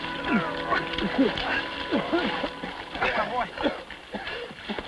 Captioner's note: Sam grunting; dramatic music